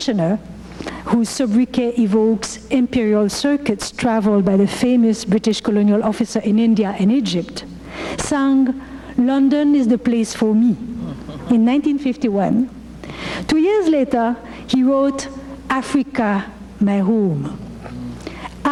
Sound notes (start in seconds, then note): 1.0 speaking foreign language